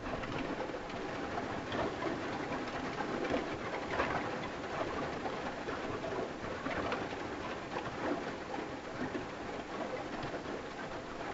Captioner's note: rain on the roof